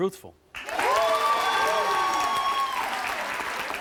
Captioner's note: audience applauds